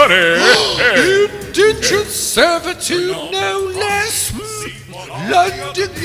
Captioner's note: gasp